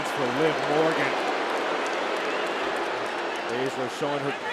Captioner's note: fans booing